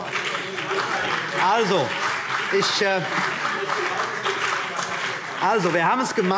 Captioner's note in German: Beifall